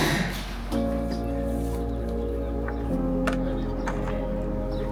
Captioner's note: laughing; upbeat music